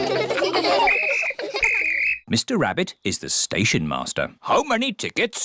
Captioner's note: blows whistle